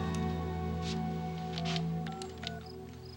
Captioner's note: dialing